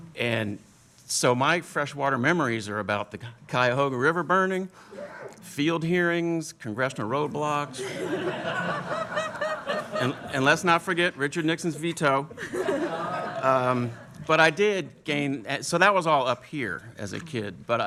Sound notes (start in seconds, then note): 7.7 laughter